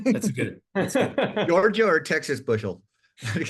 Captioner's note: laugh; laugh